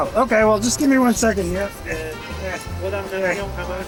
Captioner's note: sounds of Effort